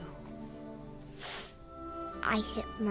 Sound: sniffs

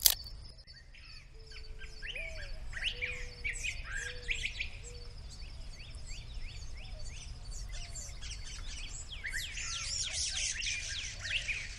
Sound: crunching; birds singing

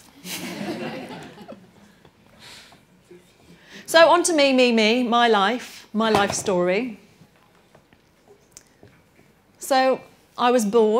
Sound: laughter

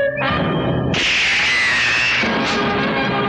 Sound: gun Shot

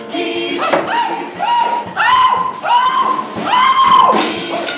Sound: screaming

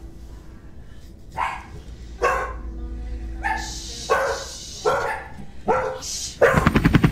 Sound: dogs barking louder; sound of helicopter flying

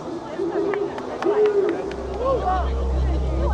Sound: person clapping; brooding music

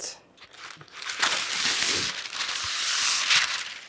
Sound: paper rustles

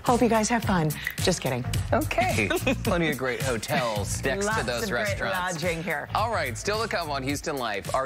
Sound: laughter

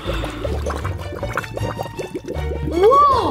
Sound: liquid bubbling

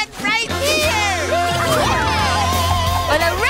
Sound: all cheering

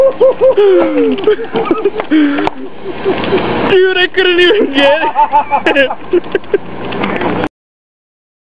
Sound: laughter

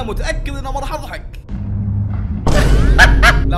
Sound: fake laugh

